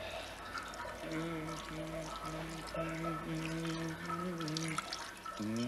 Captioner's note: priest humming